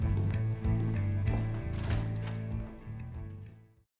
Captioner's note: door opens; upbeat music